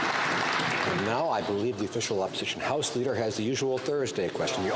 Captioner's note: some Applause